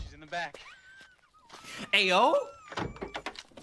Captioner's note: gasp